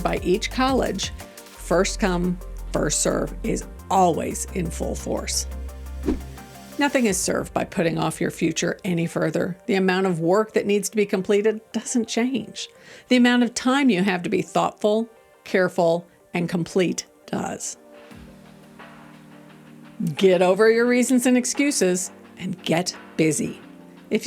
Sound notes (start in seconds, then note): 5.7 upbeat music; 6.0 transition whooshing; 18.1 gentle music